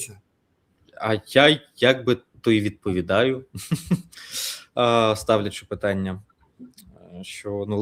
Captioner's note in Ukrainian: сопіння